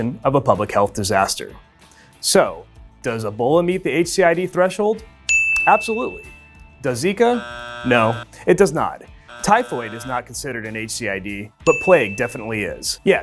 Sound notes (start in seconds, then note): 5.3 bell dinging; 7.2 buzzer buzzing